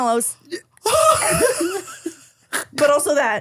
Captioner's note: laugh